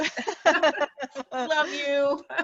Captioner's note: laughing